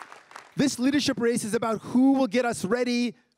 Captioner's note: crowd cheering and applauding